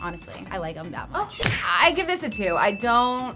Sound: bell ringing

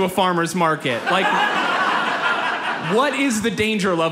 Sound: audience laughs

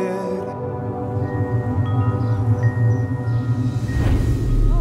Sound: wind chimes

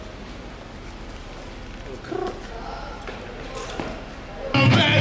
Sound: unloading noises

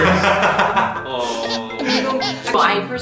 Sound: sob

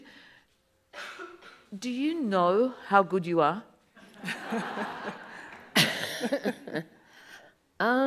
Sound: audience laughs

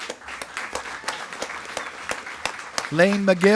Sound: attendees clapping

